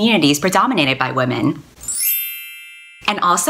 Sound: chime

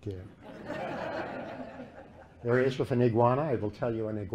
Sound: laughter

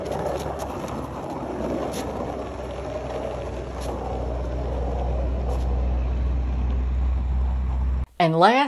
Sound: sound of Skateboard wheels gliding

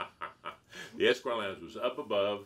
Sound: cheerful giggling

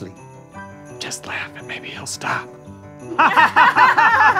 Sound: whispering; fake laughing

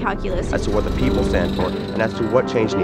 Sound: voiceover

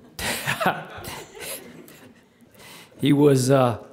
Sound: everyone laughing

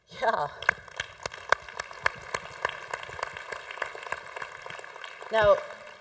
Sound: congregation applauding

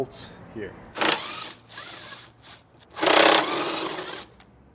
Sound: drill squeal

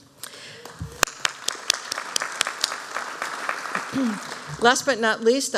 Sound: applause

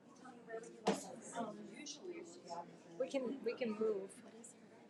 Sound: audience chattering

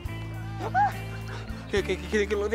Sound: Giles squeals

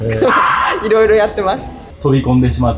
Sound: laughs

